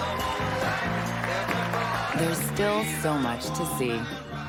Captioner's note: applause